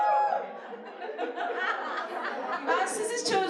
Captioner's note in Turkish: Gülüşmeler